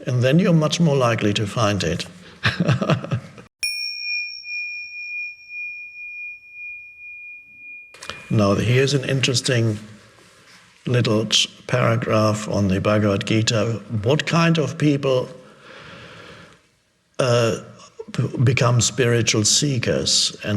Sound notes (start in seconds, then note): 2.4 Eckhart laughing; 3.6 bell dinging